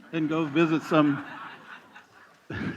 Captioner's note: laughter